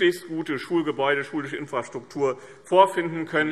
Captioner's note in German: none